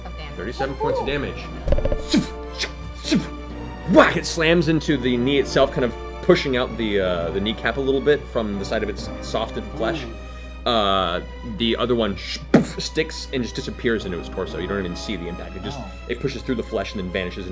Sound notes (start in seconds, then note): 1.6 arrows flying and landing; 12.5 boof